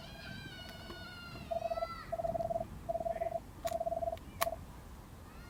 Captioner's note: device ringing